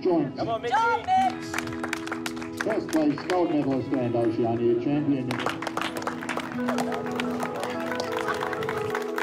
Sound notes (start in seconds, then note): 5.1 applause